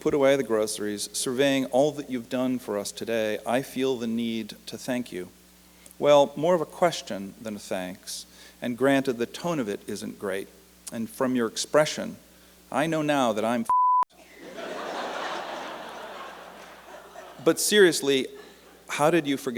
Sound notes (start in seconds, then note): 14.2 laughter